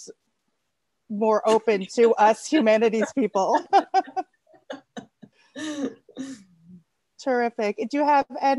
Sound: laughter

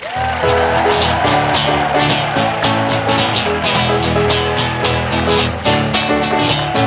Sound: audience cheering; upbeat music

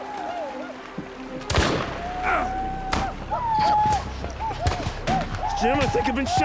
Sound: gunshot, groan

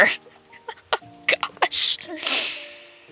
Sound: laughs

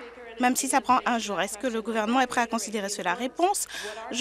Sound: applause

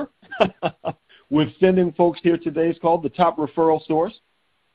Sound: chuckling

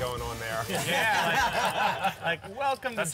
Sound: laughing

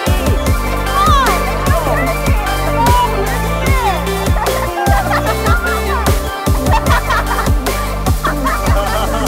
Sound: cheers and laughter

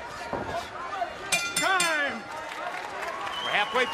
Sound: bell rings

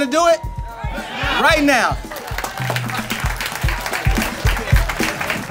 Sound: crowd cheers

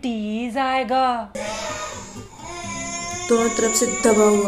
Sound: kid wailing in the background from the impending doom

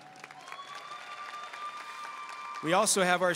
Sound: audience cheering and applauding

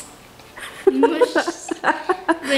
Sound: both giggling

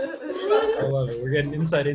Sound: laughs

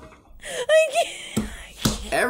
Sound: laughs

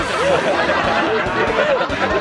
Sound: laughter

